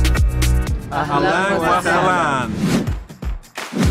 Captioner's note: speaking foreign language; whooshing; upbeat music